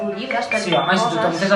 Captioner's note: a phone rings